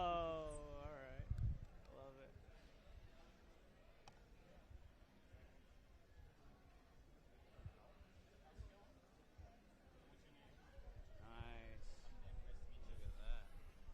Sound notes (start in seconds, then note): 3.1 background chatter